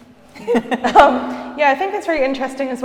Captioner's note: laughing